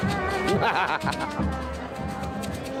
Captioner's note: laughs